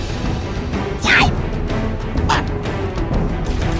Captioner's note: alien shocked